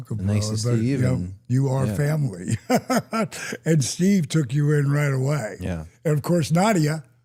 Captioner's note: laughs